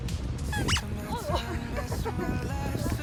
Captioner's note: creak